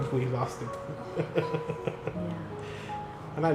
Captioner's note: laughter